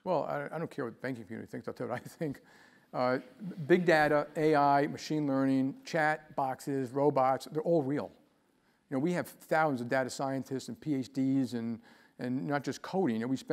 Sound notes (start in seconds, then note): 3.7 laugh